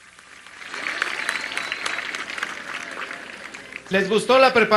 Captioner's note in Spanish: aplausos